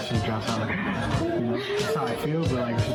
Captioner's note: excited gasp